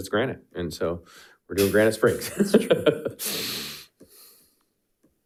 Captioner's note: laughs